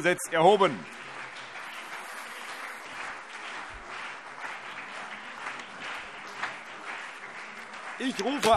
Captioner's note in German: Beifall CDU und BÜNDNIS 90/DIE GRÜNEN